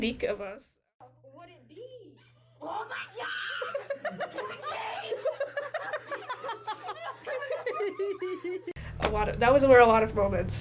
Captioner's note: friends shouting and laughing in video